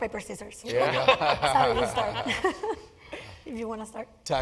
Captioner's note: laugh